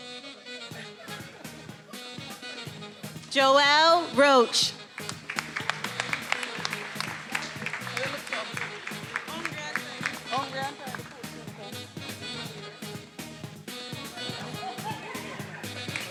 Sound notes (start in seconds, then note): 4.8 attendees applauding; 13.2 upbeat music